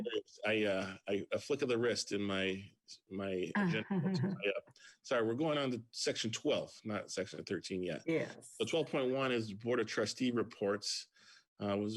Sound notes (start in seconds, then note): 3.2 laughs